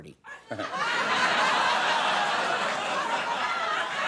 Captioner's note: audience laughing